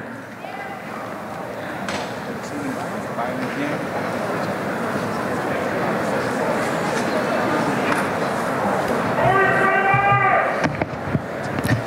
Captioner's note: background chatter